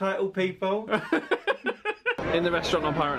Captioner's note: laughs